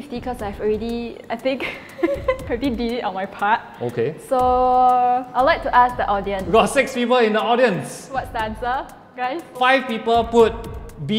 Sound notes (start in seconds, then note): 1.5 giggles